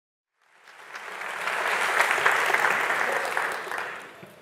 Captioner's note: audience applauding